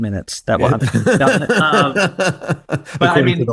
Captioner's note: laughing